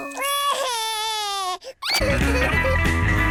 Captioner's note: cries